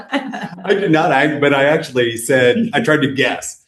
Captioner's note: laughter